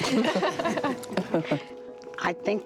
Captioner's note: laughs